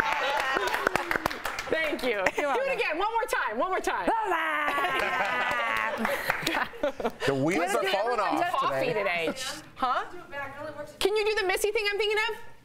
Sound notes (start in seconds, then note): 1.0 laughter